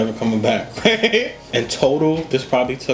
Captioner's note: laughs